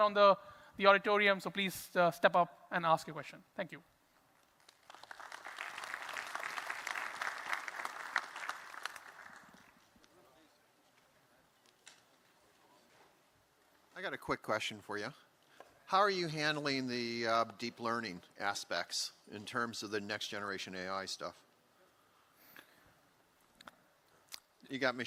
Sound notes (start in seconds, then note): 12.5 applause